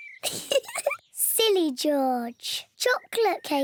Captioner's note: laughs